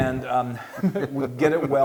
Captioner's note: laugh